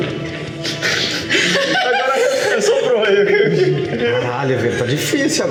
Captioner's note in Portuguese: risada